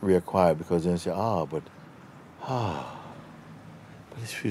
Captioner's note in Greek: εκπνοή ανακούφισης